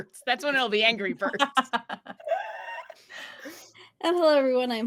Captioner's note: laughing